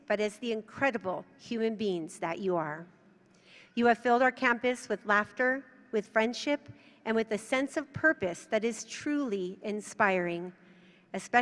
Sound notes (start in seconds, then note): none